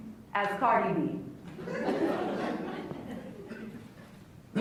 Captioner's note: laughs